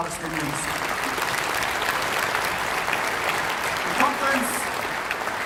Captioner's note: applause